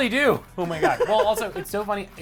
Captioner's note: laughing